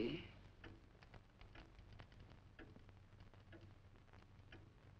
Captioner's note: clock ticking